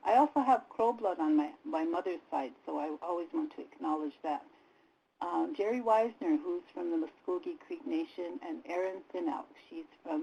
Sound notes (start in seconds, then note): none